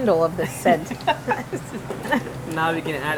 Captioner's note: chef laughs